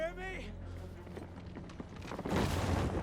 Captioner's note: low cracking